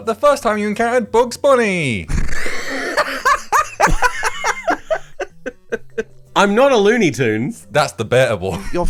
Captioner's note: laughs; all laugh